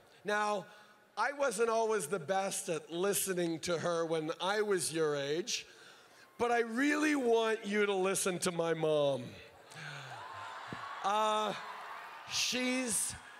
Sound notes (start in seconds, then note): 9.7 crowd cheers